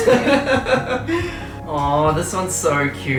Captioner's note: laughter